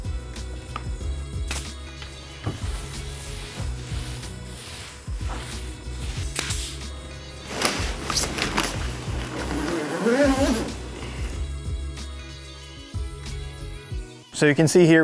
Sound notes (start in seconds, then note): 1.5 nail gun clicking; 3.1 mellow music; 3.9 roller swooshing; 4.8 mellow music; 6.2 nail gun clicking; 7.2 plastic rustling; 8.9 mellow music; 10.4 zipper buzzing; 11.9 mellow music